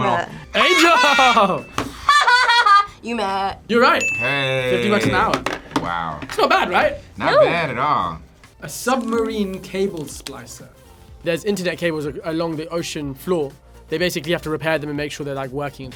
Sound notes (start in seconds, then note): 2.0 laughs